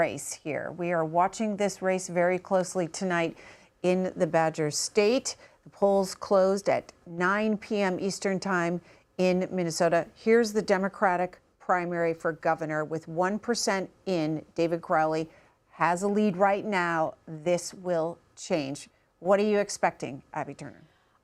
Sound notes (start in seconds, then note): none